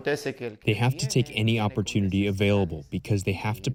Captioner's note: through translator